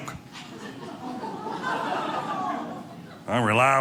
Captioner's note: audience laughing